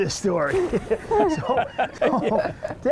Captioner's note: everyone laughs